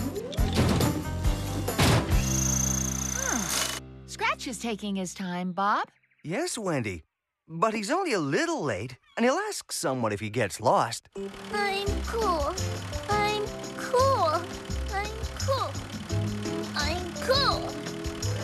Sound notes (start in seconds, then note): 0.2 hydraulic Whirring; 3.4 drill Buzzing